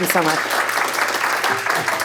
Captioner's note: applause